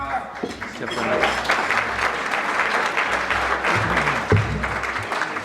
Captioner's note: audience clapping